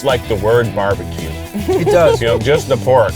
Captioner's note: laughs